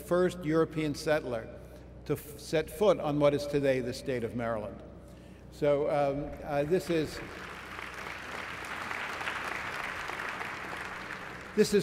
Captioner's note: applause